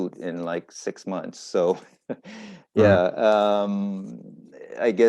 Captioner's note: laughs